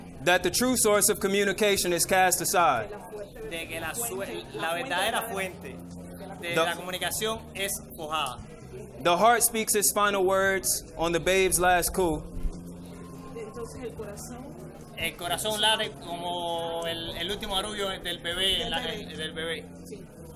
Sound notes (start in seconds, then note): 0.0 interpreter speaking in foreign language; 3.6 interpreter speaking in foreign language; 13.4 woman speaks in foreign language; 15.1 interpreter speaking in foreign language